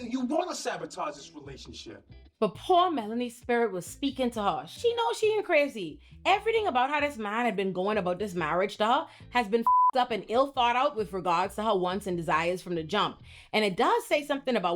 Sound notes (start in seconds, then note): 9.6 beep